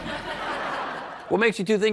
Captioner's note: laughter